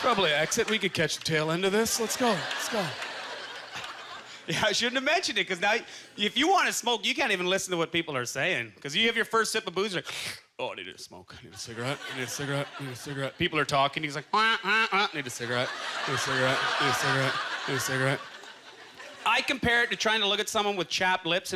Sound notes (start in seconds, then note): 2.9 audience chuckling; 10.3 slurp